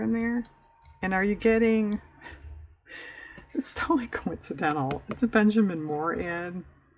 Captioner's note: laughs